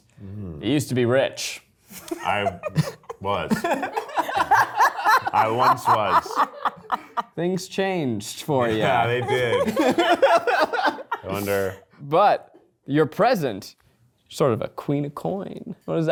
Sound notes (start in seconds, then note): 2.0 laughing